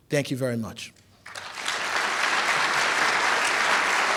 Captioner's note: applause